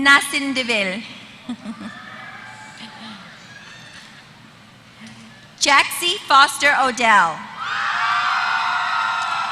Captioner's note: laughter